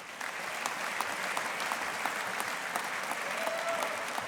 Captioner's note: audience applauding